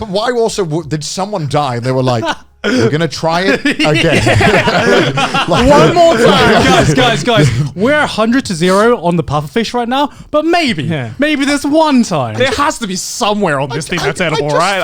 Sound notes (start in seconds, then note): 3.3 laughs; 5.4 men laugh